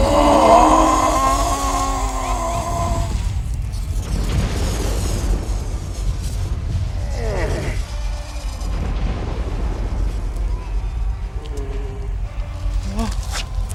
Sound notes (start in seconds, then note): 0.0 screams; 7.0 grunts